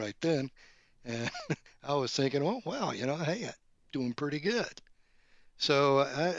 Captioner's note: laughs